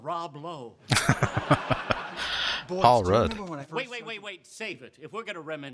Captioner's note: chuckling